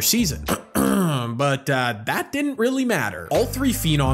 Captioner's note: clears throat